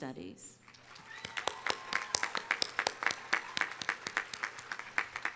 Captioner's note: audience cheering